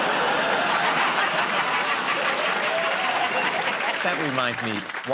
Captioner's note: laughter